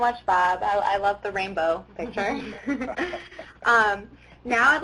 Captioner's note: chuckling